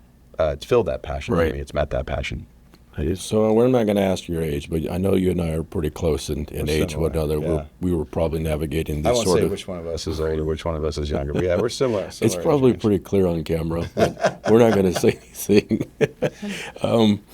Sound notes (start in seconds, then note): 13.7 laughing